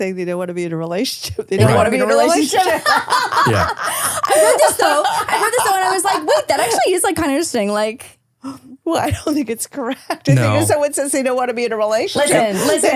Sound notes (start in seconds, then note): 2.6 both laughing